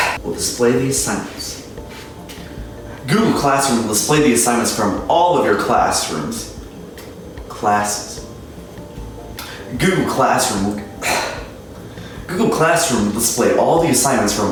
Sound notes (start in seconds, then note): 11.0 cough